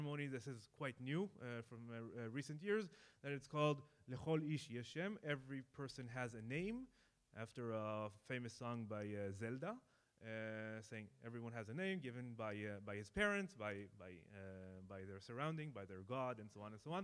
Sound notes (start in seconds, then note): 3.7 speaking in foreign language